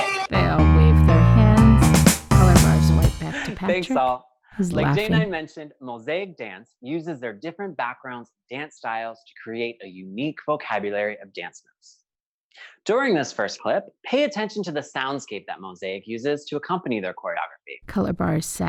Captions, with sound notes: (upbeat music) (laughs softly) – Thanks, all. Like J9 mentioned, Mozaik Dance uses their different backgrounds and dance styles to create a unique vocabulary of dance moves. During this first clip, pay attention to the soundscape that Mozaik uses to accompany their choreography.